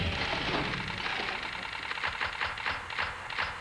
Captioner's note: rock music; clicking